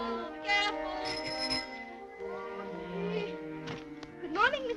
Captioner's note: ringing